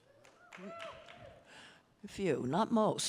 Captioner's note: some audience members applauding and cheering